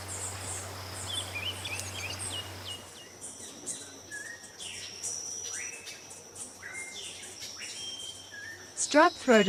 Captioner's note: birds chirping